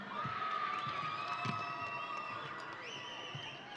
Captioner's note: audience cheering